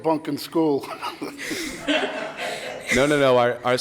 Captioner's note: laughter